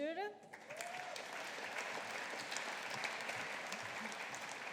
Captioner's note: audience applauding